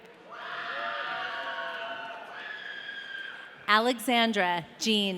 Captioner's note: audience cheering